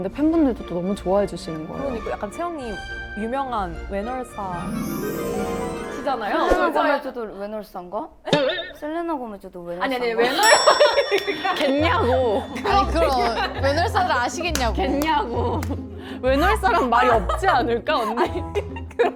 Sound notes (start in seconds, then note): 11.5 in disbelief